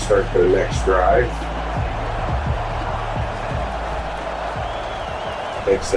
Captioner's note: crowd Noises